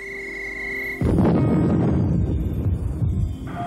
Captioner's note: blasting